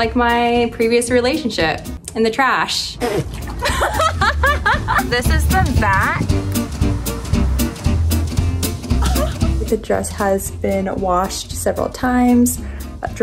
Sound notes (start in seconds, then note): 3.0 fart sound; 3.5 laughs